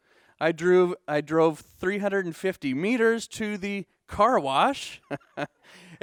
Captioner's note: laughing